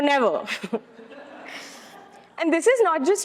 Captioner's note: attendees laughing